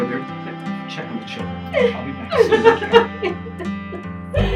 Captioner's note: sobs